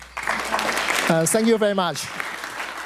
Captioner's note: attendees applauding